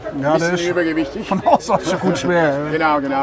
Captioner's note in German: lacht